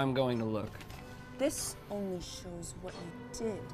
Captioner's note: rustling